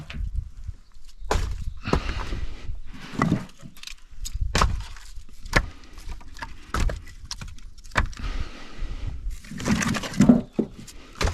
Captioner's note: footsteps